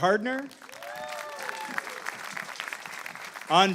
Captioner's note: applause